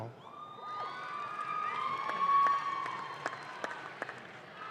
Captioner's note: audience claps